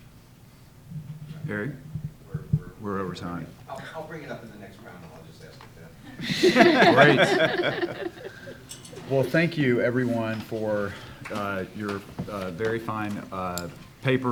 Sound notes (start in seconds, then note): 8.4 all luaghing